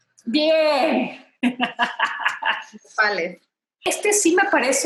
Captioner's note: laughs